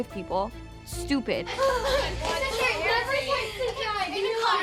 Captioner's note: children chattering